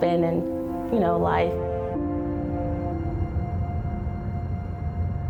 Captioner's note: engine whirring